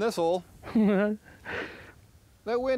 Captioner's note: chuckles